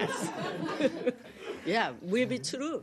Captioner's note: laughter